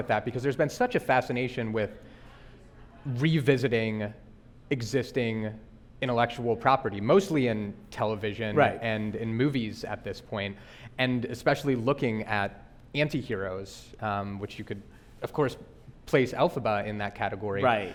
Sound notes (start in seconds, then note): none